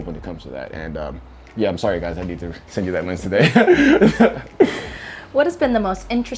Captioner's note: both laughs